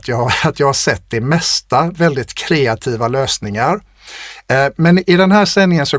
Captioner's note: scoffs